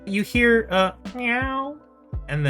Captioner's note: meow